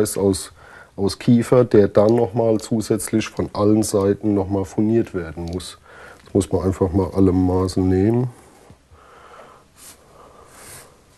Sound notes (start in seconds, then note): none